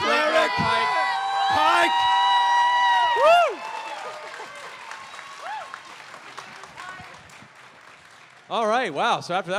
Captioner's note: cheering